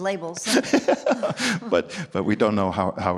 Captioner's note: both laughing